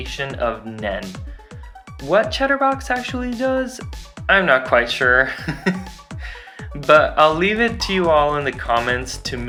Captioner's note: chuckles